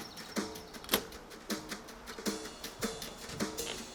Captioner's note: door unlocks